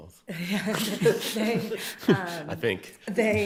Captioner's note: chuckles; everyone chuckling